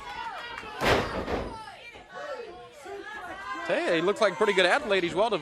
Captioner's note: crowd chatter